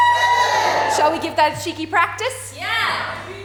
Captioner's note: audience cheers